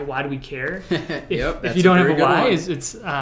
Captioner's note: laughs